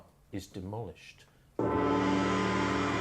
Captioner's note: gong